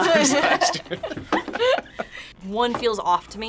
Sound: group laughs

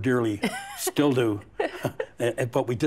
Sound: chuckles

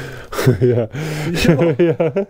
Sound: laughing

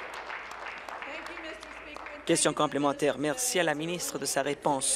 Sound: applause

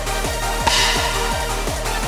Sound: pop

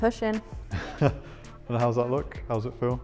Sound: laughs

